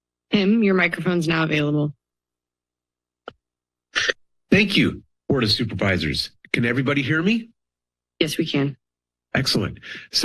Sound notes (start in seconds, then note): 0.0 silence; 2.0 silence